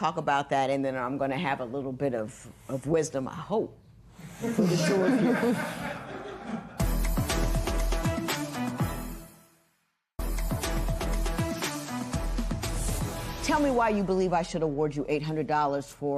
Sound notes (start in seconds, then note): 6.0 laughter